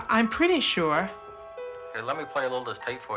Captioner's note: on telephone